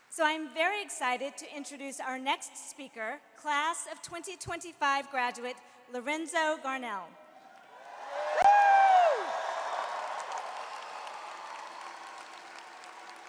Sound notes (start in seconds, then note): 7.6 audience cheers and applauds